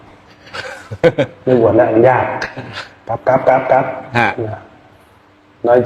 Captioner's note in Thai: เสียงหัวเราะ